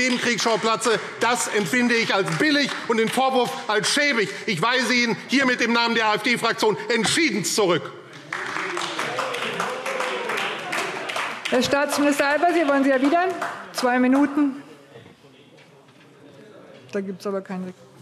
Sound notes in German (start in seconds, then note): 8.0 Beifall AfD – Zurufe: Oh, oh!